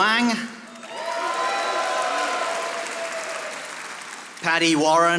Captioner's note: audience applauding